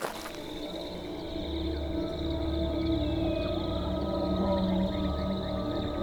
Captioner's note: insects chirping; ominous music